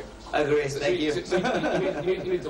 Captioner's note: laughs